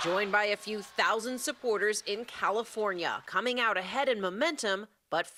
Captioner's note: cheers and applause